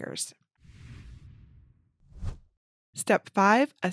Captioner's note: image whooshes